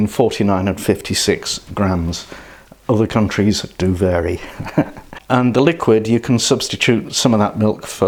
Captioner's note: laughs